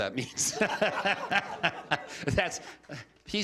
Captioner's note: laughter